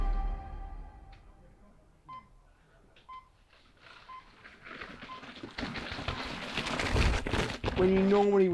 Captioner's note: start gate beeps, bike accelerating through sticky mud